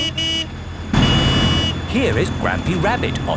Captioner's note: honking